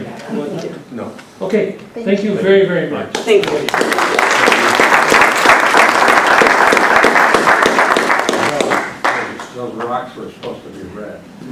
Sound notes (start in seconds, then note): 3.2 applause